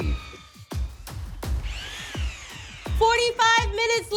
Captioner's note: mixer whirring